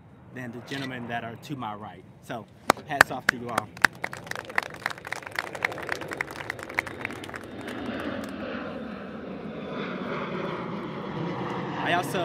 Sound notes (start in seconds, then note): 2.9 applauses; 9.5 airplane engine